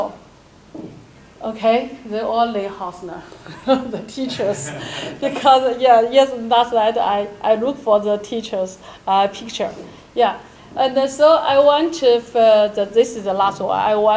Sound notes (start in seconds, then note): 3.3 chuckles